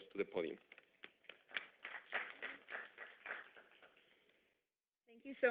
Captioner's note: audience applauds